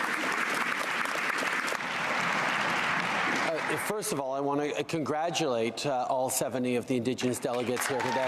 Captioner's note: applause